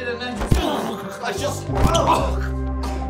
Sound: foot thumps; Flavio grunts

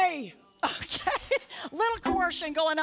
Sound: laughter

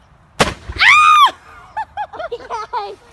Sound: balloon popping; screaming; laughing

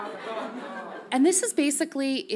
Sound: audience laughs softly

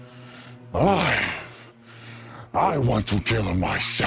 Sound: Dagon growls

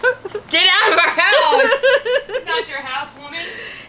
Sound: laughing

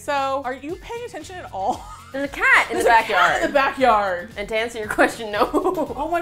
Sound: laughs

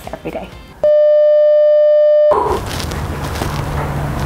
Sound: beeping noise

